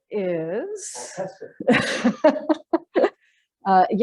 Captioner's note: laughter